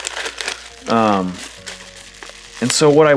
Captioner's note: package rustling